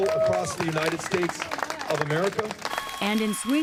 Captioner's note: cheering and applause